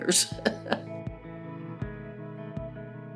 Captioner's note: chuckles; mellow music